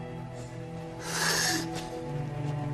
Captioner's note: breathes heavily